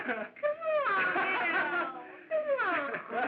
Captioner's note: laughing